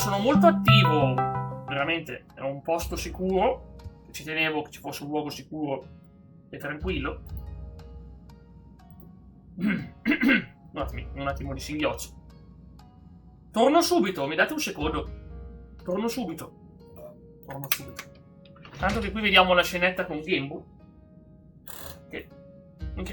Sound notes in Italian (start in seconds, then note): 9.6 schiarire la voce; 9.6 tosse